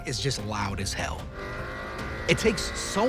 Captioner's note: engine buzzing